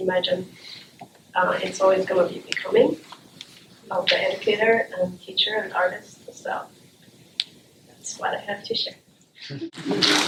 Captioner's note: applause